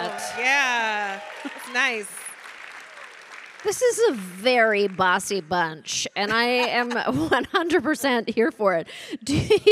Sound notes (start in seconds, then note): 2.3 audience applauding